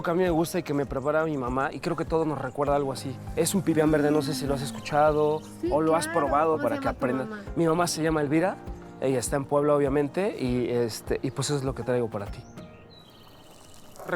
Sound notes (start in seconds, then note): 6.5 speaking Spanish